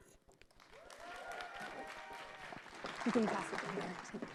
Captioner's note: audience clapping